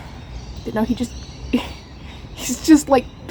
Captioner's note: laughs